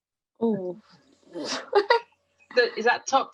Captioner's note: laughs